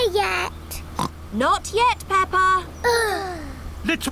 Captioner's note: oinks; both sigh